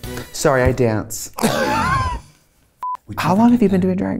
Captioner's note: Katya laughing; record scratches